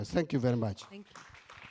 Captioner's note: applause